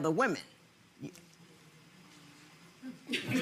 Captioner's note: laughing